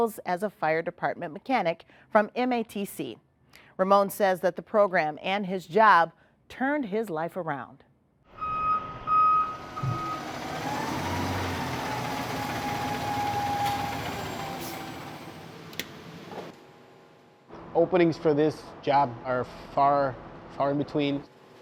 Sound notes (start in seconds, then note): 8.4 beeping; 9.8 engine chugging